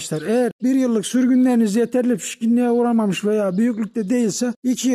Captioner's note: none